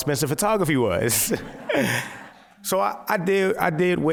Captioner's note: laughter